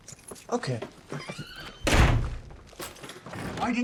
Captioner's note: door slams shut